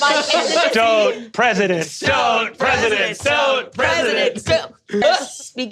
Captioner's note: all chanting